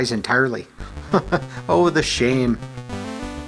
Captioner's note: chuckles